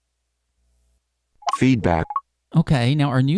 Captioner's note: beep